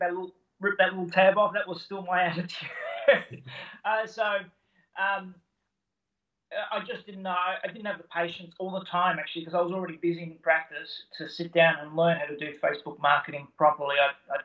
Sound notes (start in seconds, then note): 2.7 laughing